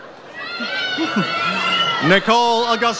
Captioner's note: audience cheers